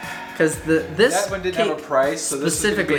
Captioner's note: male Voice